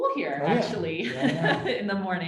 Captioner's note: laughs